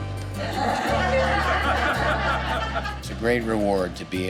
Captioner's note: laughs